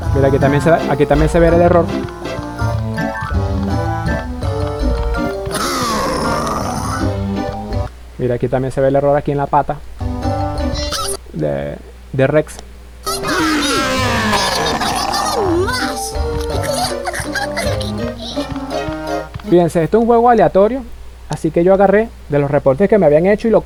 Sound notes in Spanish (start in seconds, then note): 4.9 gemido; 13.2 grito